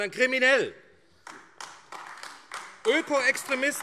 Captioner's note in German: Beifall AfD